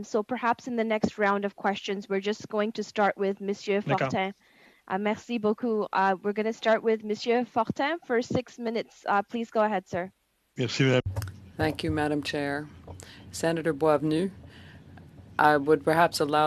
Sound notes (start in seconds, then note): 7.1 speaking French